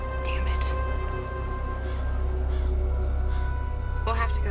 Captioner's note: bell